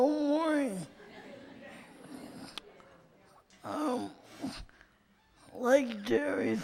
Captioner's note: light laughter in audience